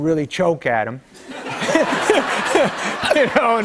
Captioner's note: laughter